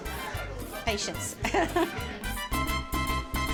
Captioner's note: chuckles